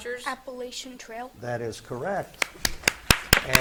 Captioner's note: spectators clap